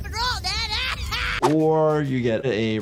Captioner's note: Jimbo laughs